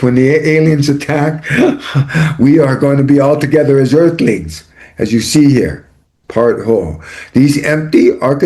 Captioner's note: laughter